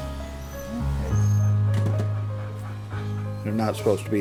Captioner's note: dog whining,panting